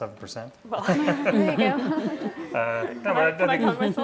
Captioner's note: laughing